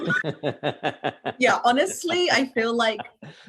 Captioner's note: laughter